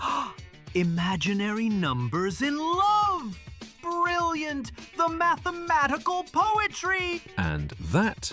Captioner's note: gasping with excitement